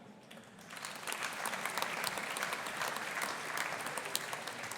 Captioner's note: audience applauding